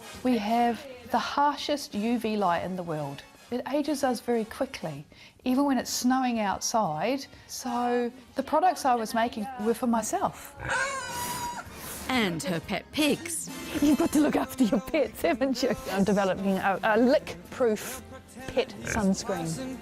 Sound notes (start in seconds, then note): 10.6 pig squealing; 10.8 pig snorting